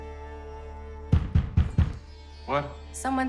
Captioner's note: fist pounding